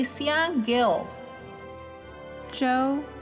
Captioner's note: none